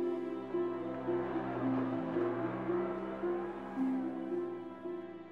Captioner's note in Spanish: motoneta acelerando